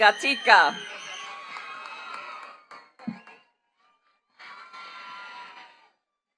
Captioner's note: attendees cheering and clapping